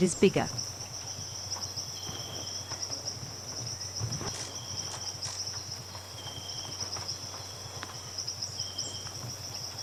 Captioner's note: birds singing and chirping